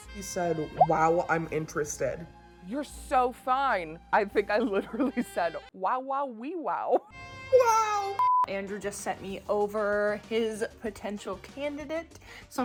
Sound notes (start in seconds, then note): 6.6 laughing